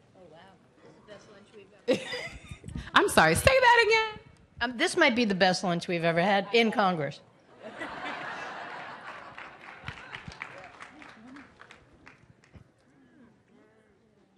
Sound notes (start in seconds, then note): 1.9 laughs; 7.5 laughter; 8.7 applause